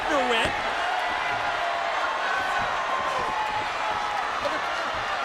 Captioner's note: crowd shouts and cheers